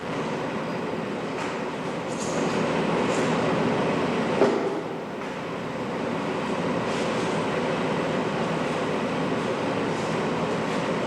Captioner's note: background construction noise